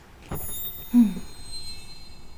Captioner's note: sighs